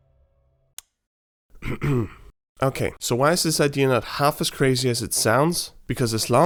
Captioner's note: clears throat